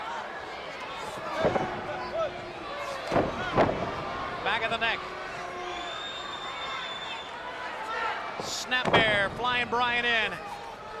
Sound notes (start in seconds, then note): 2.8 Stunning Steve stomping; 3.0 Arn thuds; 6.3 spectators cheering